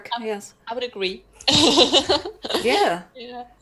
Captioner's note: laughs